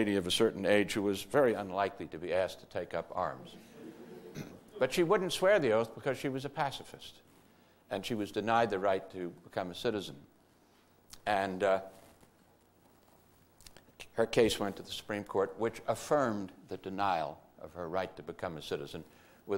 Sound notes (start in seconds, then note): 3.6 audience laughter